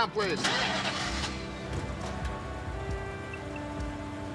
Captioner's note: engine starting